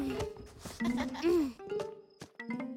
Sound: continues giggling; giggling

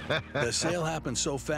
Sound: laughs

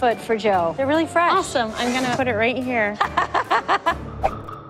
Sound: laughs

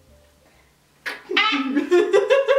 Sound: pretend neck snapping

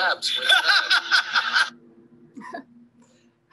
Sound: laughs

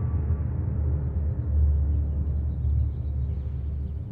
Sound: birds chirping

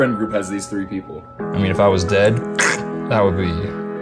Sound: noise to indicate a cut throat

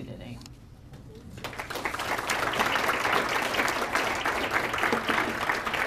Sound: audience applause

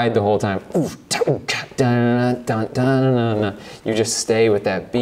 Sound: beatboxes

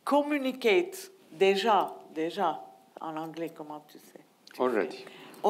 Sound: speaking in foreign language

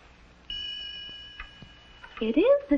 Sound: ding!

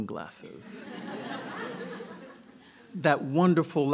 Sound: laughter

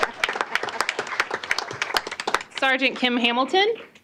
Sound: applause

